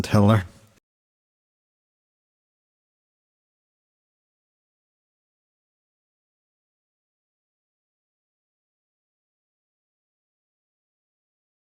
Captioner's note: silence